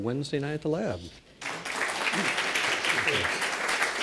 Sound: applause

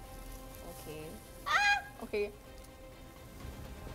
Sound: squeals

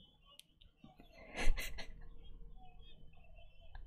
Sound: laughs

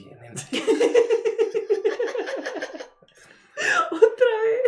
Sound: crack up

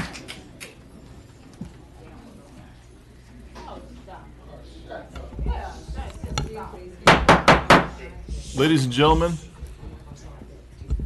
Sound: applause

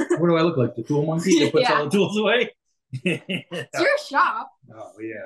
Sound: laughs

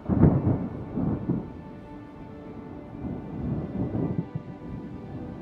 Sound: thunder

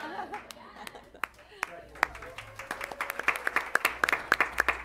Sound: applause

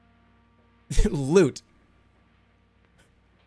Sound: chuckles

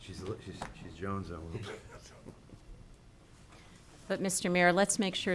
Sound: speaking distantly

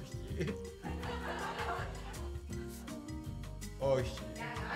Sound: laughter

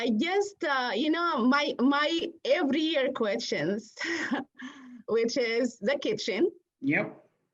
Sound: laughter

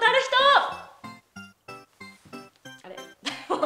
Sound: silence

